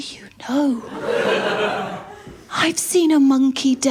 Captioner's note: laughter